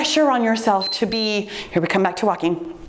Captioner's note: timer beeps